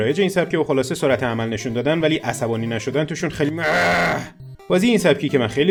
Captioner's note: sounds of anguish